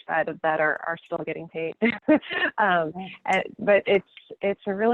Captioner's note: laughing